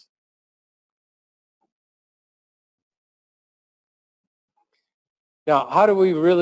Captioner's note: pause